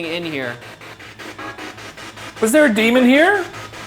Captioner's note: spirit box chattering